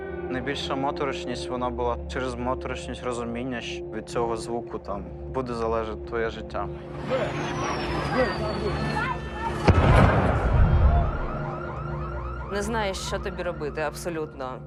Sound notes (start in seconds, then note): 7.2 people yelling